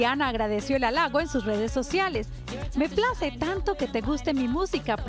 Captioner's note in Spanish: AUDIO EN INGLéS